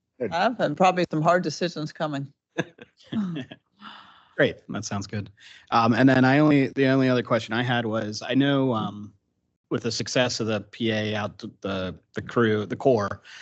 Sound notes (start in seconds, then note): 2.6 council chuckling